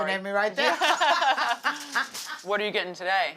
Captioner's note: laughing